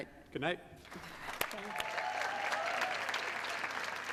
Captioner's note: cheers and applause